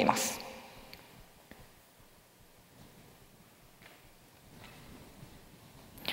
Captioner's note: silence